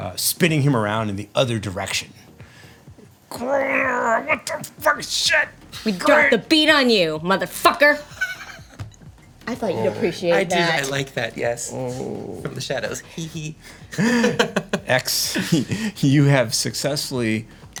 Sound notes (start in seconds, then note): 3.3 growling; 7.9 laughing; 13.9 laughing